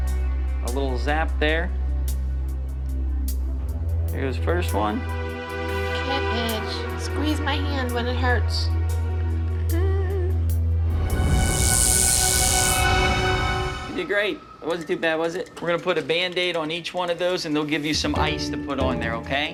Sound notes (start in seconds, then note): 8.6 groaning nervously; 10.9 zapping sounds